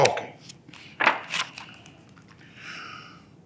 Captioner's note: pages rustling